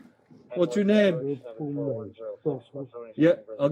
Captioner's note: radio chatter